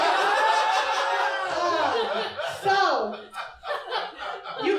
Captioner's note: audience laughter